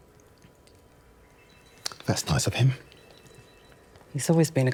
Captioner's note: phone ringing